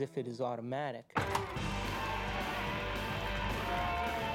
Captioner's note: cheering, Applauding